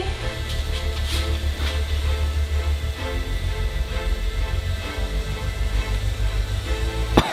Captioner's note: tense music; press sizzling